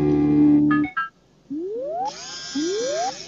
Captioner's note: beeping; whirring